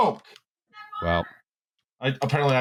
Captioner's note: calls back distantly